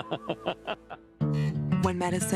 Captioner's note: man laughing